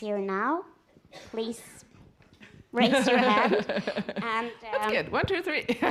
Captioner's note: laughs